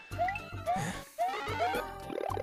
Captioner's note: sigh